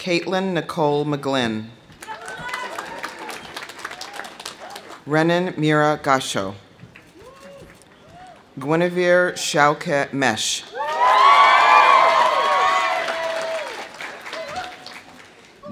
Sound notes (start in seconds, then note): 2.0 audience applauding; 2.0 audience cheering; 7.0 audience applauding; 7.1 audience whooping; 10.7 audience cheering; 10.8 audience applauding